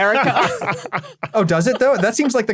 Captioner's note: group laughing